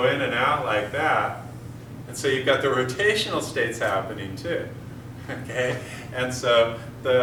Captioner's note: chuckle